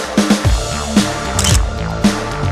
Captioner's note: photo Click